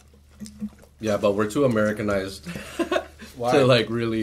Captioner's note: laughs